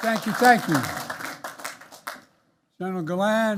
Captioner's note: applause